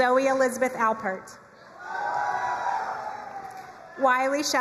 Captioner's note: crowd cheering and applauding